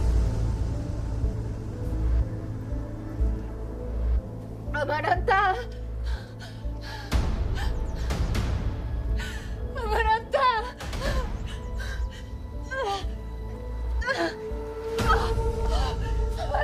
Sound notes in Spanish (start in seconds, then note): 9.7 Sollozos; 15.0 Quejidos